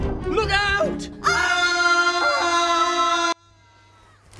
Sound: couple scream

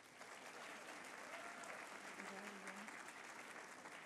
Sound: applause

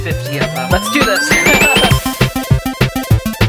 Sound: laughs; electronic music

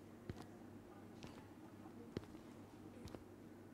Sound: returning footsteps

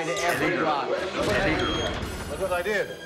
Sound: beeping

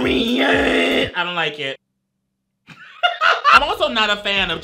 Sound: laughs

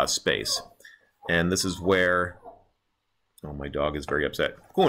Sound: dog whines

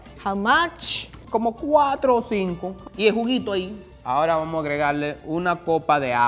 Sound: speaking in foreign language

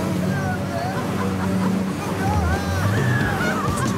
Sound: laughing

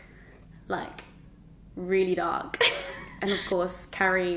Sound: chuckles

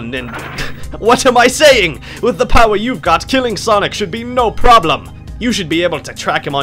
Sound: laughs

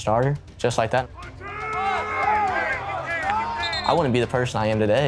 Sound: players shouting

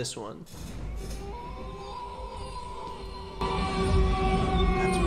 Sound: wolves howling loudly

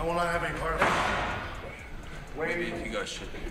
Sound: wrestlers thudding

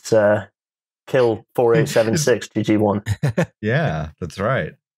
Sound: laughs

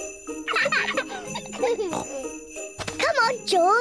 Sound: both giggle

